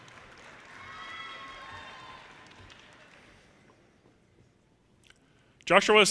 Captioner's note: audience cheers and applause